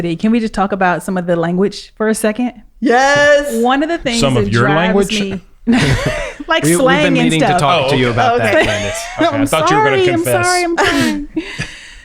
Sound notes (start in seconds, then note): 6.9 laughs